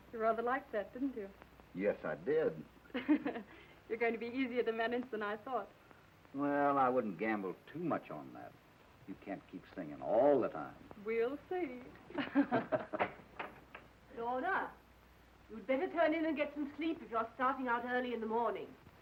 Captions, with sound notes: - You rather liked that, didn't you? - Yes, I did. (Lorna laughs) - You're going to be easier to manage than I thought. - Well, I wouldn't gamble too much on that. You can't keep singing of all the time. - We'll see. (both laughing) - Lorna? You'd better turn in and get some sleep if you're starting out early in the morning.